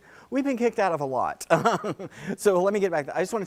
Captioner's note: laugh